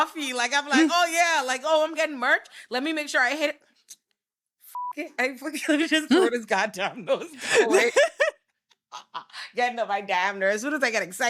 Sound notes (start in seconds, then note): 4.0 laughing; 4.7 beep